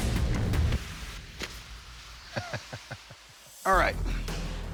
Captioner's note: laughing